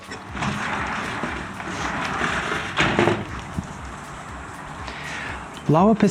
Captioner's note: sliding door opens and closes